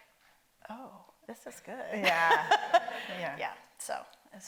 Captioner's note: laughs